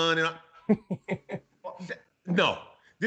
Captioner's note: laughs